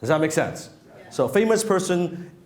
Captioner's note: crowd